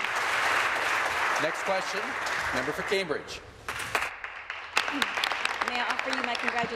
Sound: applause

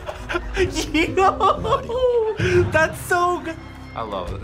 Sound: laughs

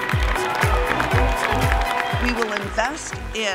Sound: applause

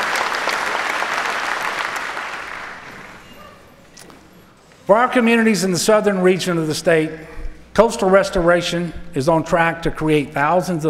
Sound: applause

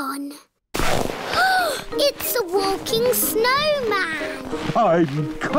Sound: gasps

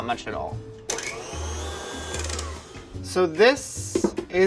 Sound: whirring stops

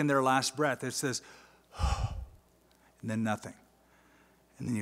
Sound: sigh

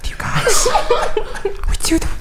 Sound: laughing

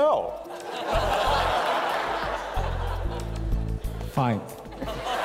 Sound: laughter

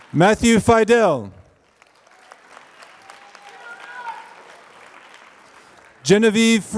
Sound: applause

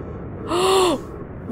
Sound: gasp

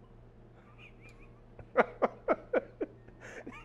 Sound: laughs

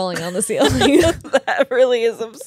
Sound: laughs

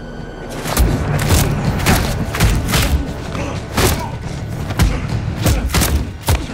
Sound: both grunting; fists thumping

